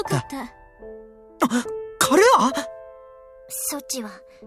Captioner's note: gasp